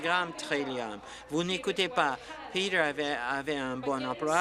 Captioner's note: applause